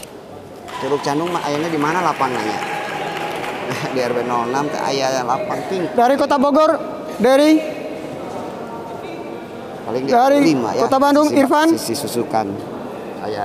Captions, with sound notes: [Applause] from the city of Bogor from the city of Bandung